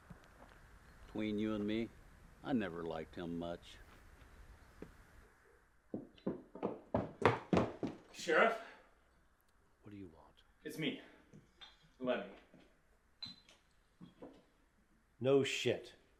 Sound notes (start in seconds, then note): 5.9 footsteps clattering